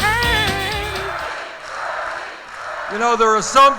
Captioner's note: chanting